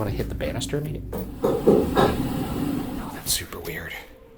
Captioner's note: knocking